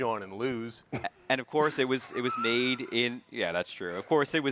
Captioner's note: both chuckling